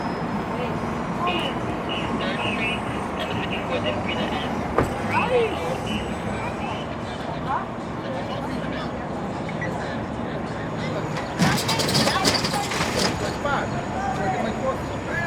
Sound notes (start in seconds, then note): 1.3 police radio in the distance; 11.1 metal door scraping